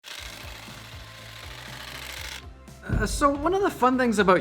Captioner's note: camera shutters